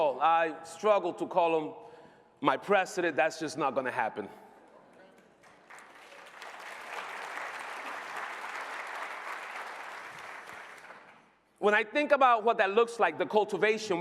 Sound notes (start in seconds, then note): 9.0 applause